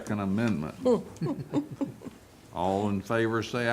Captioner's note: laughter